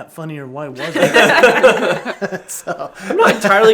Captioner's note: laughs